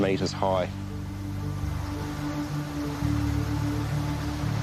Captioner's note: water crashing